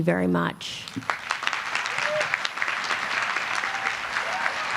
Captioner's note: applause